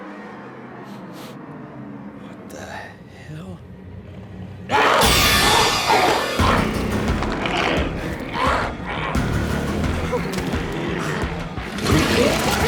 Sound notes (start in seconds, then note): 0.9 sniffs; 4.1 zombie growling; 10.2 Mose whimpers